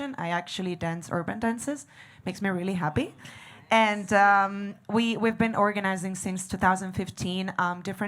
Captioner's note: none